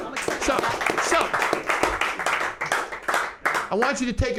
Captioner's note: group applause